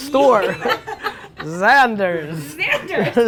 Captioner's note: laughter